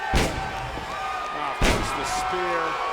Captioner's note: audience jeers